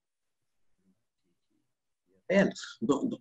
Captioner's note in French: coupure audio